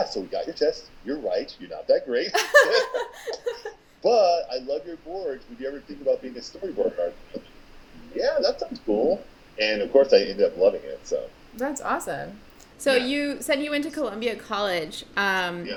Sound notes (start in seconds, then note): 2.3 laughing